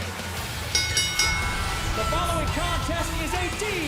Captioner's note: bell ringing